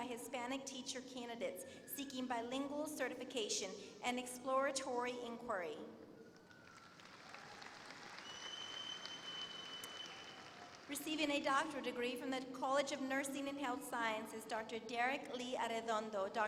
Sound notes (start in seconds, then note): 6.3 applause